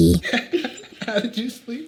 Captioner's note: both laughing